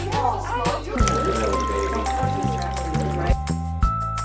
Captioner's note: laughter, indistinct chatter; water sounds; cheerful music